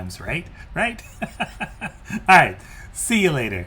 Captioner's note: laughs